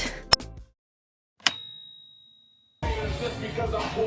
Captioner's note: ding